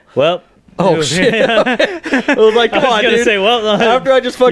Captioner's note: laughing from guy almost falling off bridge